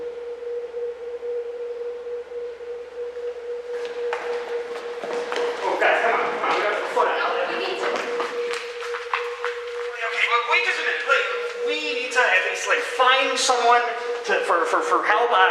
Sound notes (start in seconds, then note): 5.8 clammering footsteps